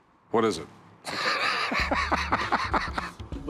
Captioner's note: both laughing